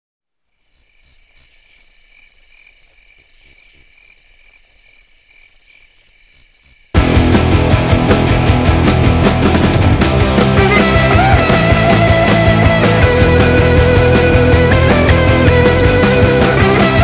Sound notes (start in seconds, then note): 0.4 insects chirping; 7.2 hard rock music